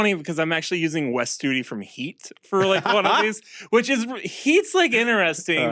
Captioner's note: laughs